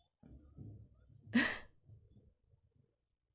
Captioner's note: laughs